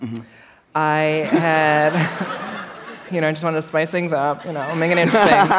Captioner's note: laughter